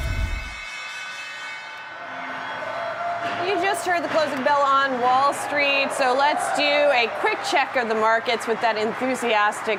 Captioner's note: bell ringing